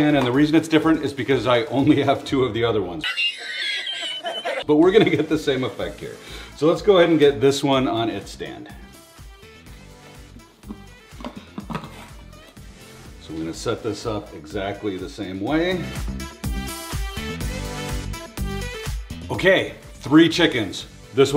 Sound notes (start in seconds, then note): 3.0 man laughs; 16.3 upbeat music